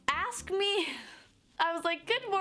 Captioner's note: exhales